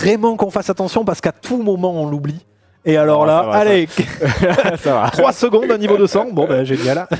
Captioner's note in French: rires